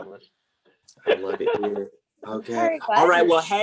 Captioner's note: quietly; heavy, Southern-voice